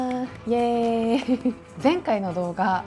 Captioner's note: clap clap